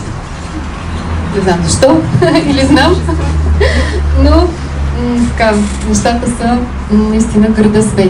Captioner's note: she laughs